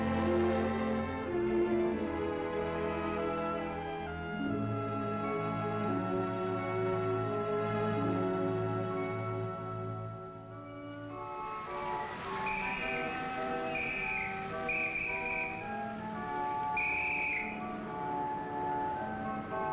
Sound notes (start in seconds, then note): 11.2 whistle blows; 16.2 organ music